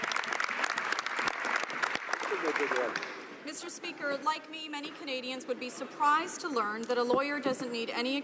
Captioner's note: some Applause